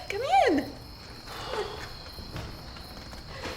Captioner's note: Beau exhaling; insects chirping